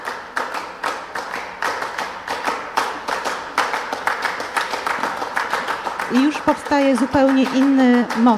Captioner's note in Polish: Aplauz